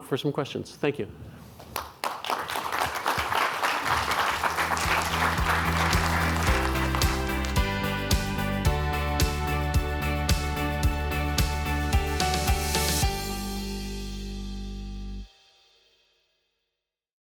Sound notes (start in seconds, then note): 1.6 audience applauding; 5.8 upbeat music